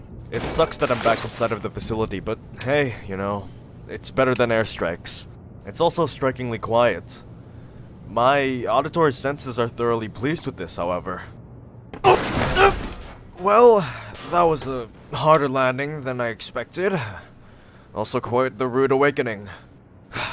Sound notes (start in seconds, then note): 11.9 alarmed noises; 20.1 sigh